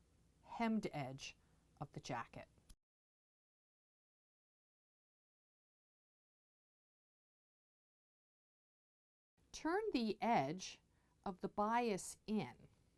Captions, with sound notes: hemmed edge of the jacket. *No Sound Present* Turn the edge of the bias in